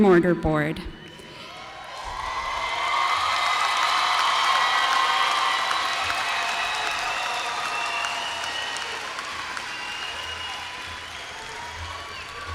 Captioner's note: applause